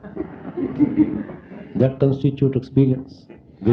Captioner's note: laughter